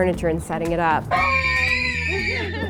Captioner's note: screaming; laughs